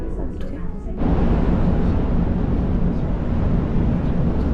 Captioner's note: raising wind noise